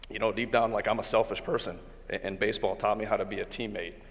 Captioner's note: none